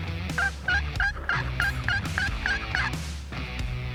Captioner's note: turkey call